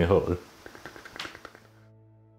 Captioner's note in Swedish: Tassande ljud